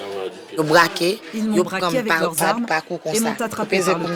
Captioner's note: French spoken audio